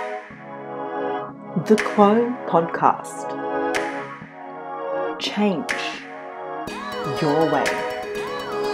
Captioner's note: voiceover